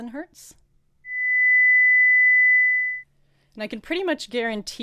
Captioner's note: frequency sound